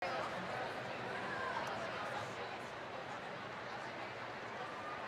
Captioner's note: indistinct crowd chatter